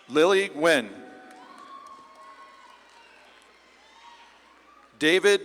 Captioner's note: audience claps and cheers